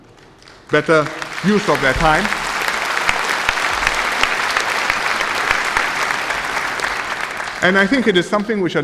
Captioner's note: applause